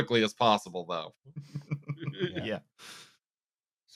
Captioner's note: laughter